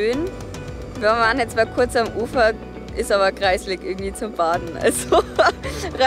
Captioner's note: laughs